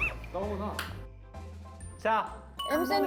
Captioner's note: crying